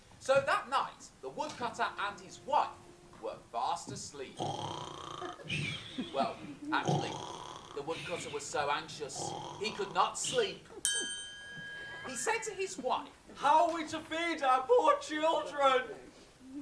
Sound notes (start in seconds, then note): 4.3 snoring; 10.8 ping